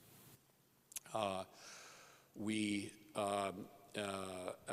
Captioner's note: stutters